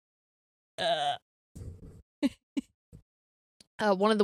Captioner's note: giggles